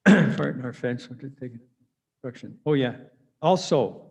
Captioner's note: murmurs